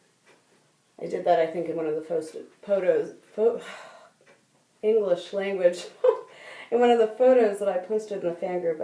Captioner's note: sigh